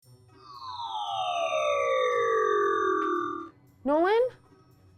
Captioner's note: shrink ray whirrs